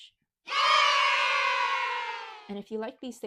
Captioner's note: children cheering